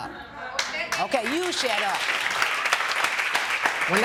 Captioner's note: applause